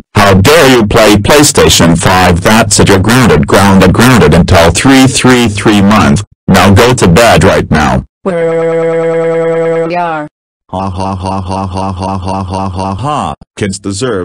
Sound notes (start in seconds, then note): 9.2 crying; 11.0 laughing and scheming